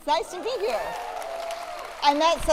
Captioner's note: applause